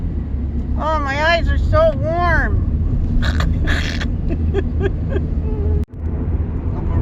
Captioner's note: laughing